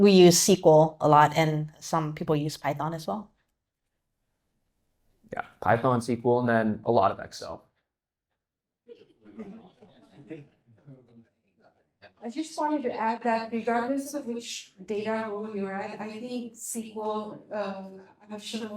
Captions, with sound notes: - We use SQL a lot and some people use Python as well. - Yeah, Python, SQL and then a lot of Excel. (audience laughing) - I just wanted to add that regardless of which data you are at, I think SQL, I'm sure most